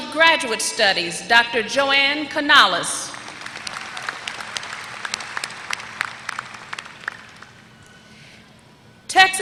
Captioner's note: applause